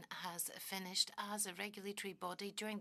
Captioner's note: speaking French